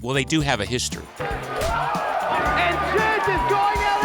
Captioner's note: crowd cheering; groans